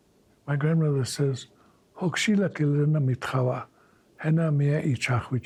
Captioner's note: speaking in Lakota